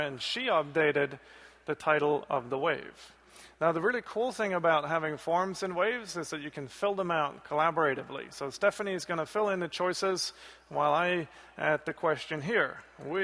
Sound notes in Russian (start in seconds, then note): none